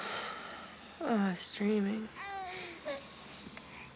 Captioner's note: baby crying